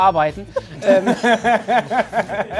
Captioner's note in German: Lachen